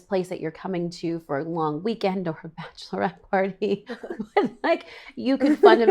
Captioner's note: laughs